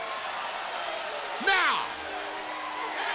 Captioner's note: crowd cheering